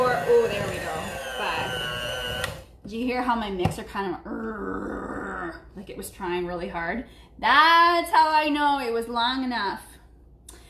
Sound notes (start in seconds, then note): 4.3 growling